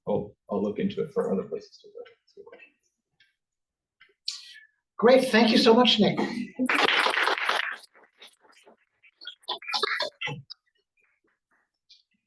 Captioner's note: applause